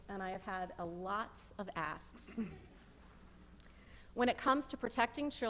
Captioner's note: chuckling